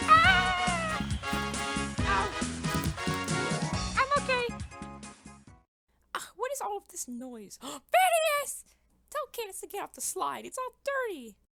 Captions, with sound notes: AAAAAAAAAHHHHH oh- I'm okay. Agh, what is all of this noise.. *GASP* PHINEAS!! Tell Candace to get off the slide, it's all dirty!